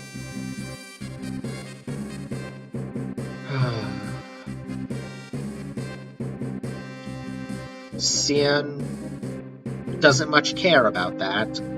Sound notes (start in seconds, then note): 3.4 sighs